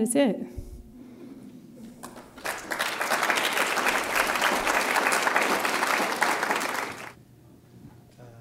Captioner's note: applause